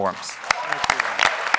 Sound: applause

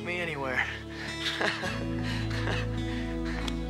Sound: both laugh

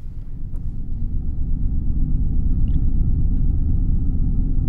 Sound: low rumbling returns

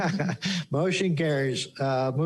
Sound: laughter

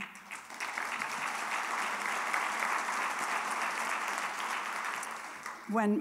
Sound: applause

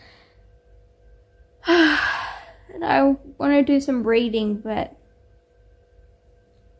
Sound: sighs

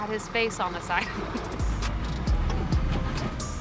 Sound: laughs

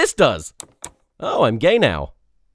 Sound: click

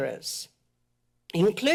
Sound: pause

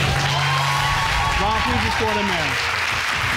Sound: audience cheering

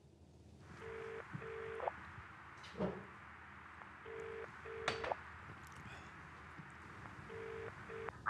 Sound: ringing

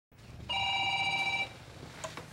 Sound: phone ringing

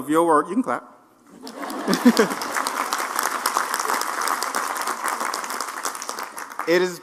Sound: applause

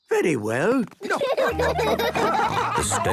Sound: laughing

